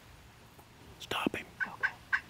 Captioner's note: whispering